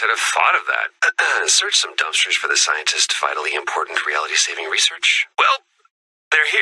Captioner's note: ahem